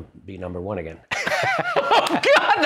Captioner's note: laughter